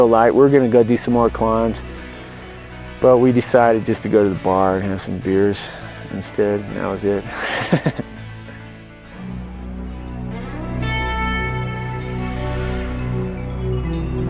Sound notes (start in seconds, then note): 8.5 laughs; 9.1 foreboding music